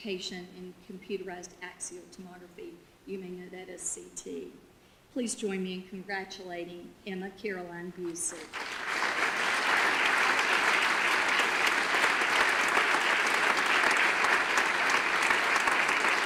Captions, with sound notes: and certification in computerized axiom tomography. You may know that as CT. Please join me in congratulating Emma Caroline Busick. (audience applause)